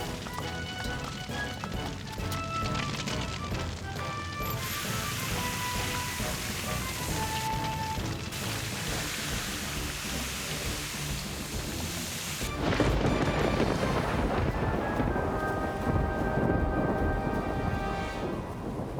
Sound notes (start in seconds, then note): 4.8 whooshing; 12.3 thunderclap; 15.1 wind & Rain Blasting